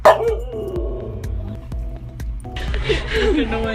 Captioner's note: howling; laughing